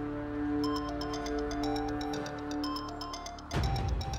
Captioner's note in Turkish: Telefon çalıyor